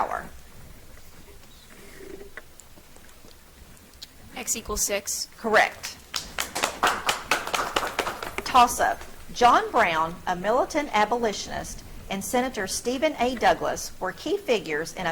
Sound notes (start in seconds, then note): 6.0 audience clapping